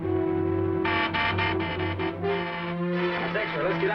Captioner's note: car horn honking